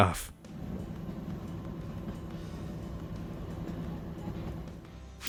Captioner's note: train engine revving